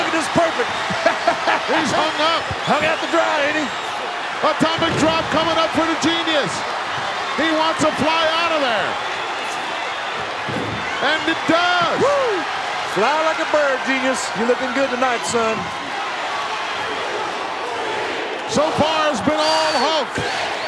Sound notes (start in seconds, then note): 0.7 chuckling; 3.7 audience cheering; 16.4 audience cheering